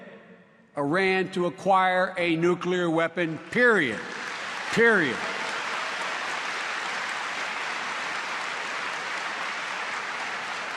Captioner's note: applause